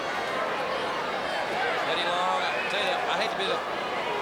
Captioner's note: crowd chatter